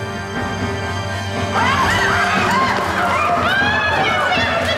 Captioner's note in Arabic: صراخ